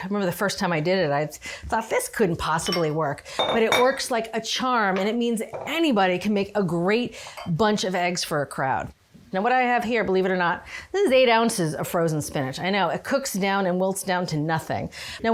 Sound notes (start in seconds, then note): none